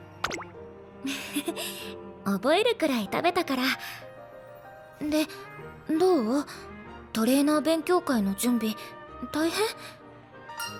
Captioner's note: chuckles